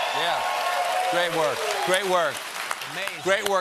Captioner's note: cheers and applause